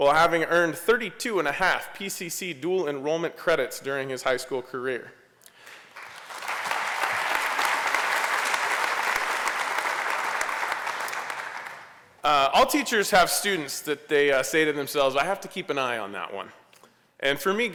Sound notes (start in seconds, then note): 5.6 applause